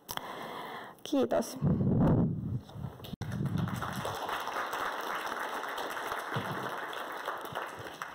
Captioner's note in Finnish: Yleisö taputtaa